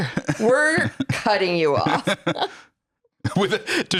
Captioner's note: laughs